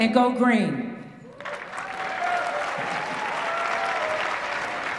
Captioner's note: applause